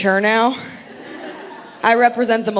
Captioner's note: audience laughing